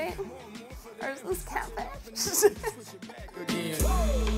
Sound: laughs

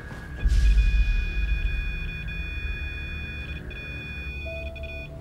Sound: beeping

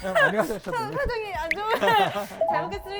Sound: hahahahahahhahahaha

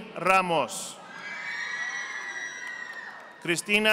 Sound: audience applauding

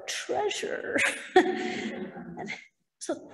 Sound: laughter

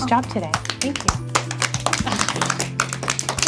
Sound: applause

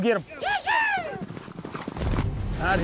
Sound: shouting

